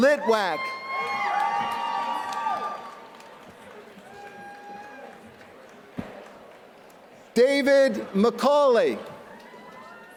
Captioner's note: applause